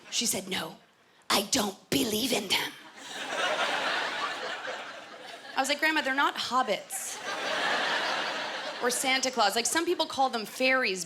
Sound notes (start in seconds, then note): 2.9 laughter; 7.1 laughter